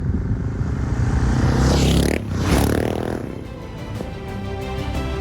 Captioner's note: motorcycle roaring; powerful music